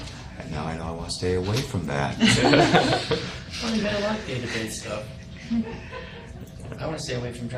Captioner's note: everyone chuckles